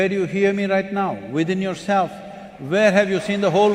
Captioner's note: applause